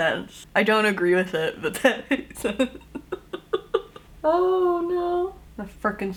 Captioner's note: laughs